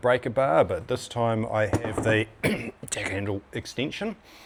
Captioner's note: ahem